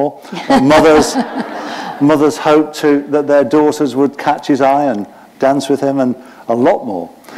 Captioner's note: laughter